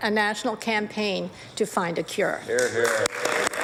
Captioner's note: applause